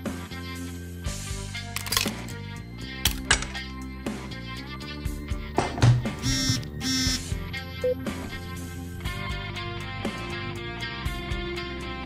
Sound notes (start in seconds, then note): 3.5 phone vibrates